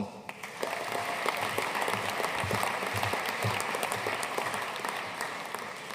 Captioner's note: audience cheering and applauding